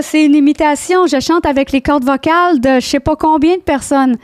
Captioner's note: in french